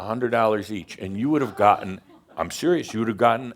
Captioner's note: someone laughs out loud